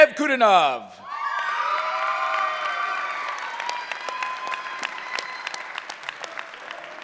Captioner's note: cheering